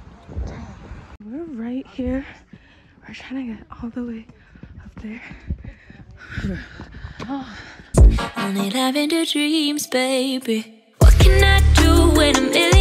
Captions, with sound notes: we are right here we are trying to get all the way up there *out of breath*